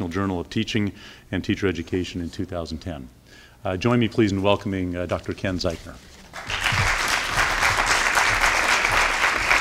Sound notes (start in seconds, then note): 6.3 applause